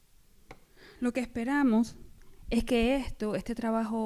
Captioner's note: speaking spanish